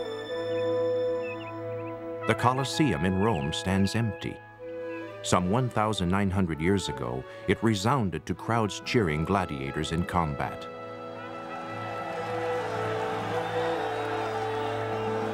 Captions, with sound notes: THE COLOSSEUM IN ROME STANDS EMPTY. SOME 1,9OO YEARS AGO, IT RESOUNDED TO CROWDS CHEERING GLADIATORS IN COMBAT. ( crowd cheering )